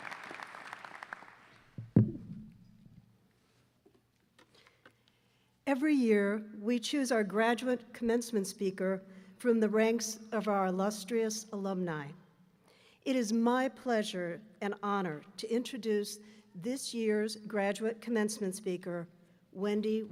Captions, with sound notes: (applause) Every year we choose our graduate commencement speaker from the ranks of our illustrious alumni. It is my pleasure and honor to introduce this year's graduate commencement speaker, Wendy